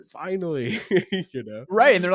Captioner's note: laughs